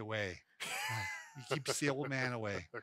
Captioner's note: laughing